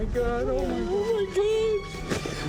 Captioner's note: sobbing